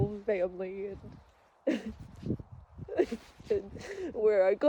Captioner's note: sobs softly through words